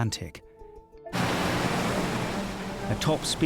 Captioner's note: waves roar